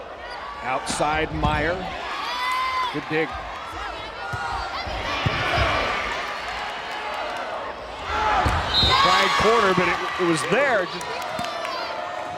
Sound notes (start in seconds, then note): 1.8 players yelling